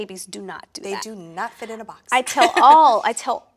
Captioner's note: laughs